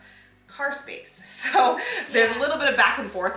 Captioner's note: laughs